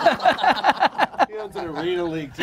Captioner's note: group laughter